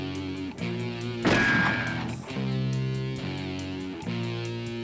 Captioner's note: gun fires